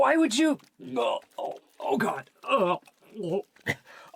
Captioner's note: hacking, retching